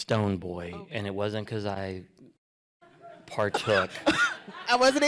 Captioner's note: laughter